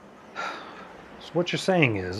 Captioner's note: Joey sighs